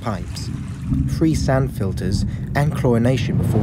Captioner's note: swirling water; heavy rushing water